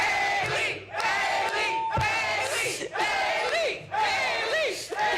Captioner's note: cheers and applause